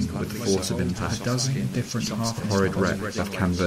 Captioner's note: above many overlapping voices